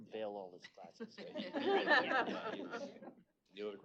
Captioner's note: laughter